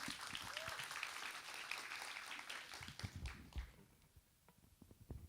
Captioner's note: applauds